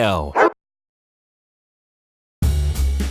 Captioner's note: dog barking; laid-back jazz music